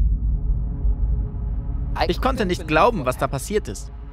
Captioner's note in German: Düstere Töne; englisch